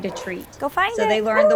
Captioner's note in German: Bellt